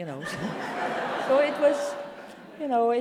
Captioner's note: audience laughs